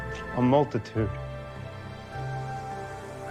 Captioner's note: none